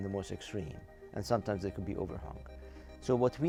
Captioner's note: voice muffling